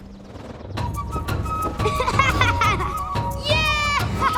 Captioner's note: laughing